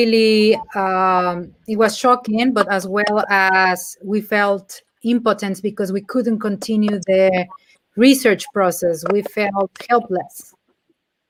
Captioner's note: speaking in Spanish